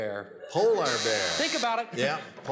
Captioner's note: buzzer